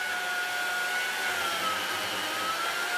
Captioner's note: screeching whirring